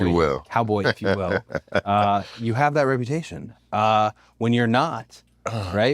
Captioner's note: laugh